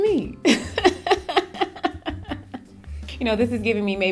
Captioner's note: laughing